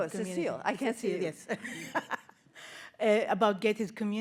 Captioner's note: laughing